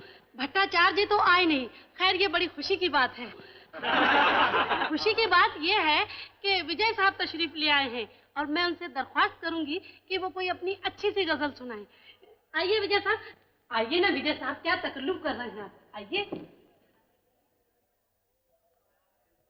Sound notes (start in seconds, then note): 3.8 laughing